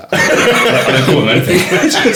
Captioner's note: laughing